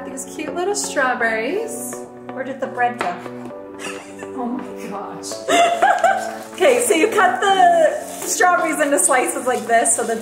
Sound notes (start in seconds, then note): 5.4 laughs